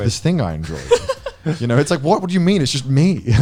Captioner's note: laughing